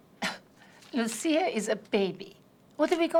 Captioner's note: scoffs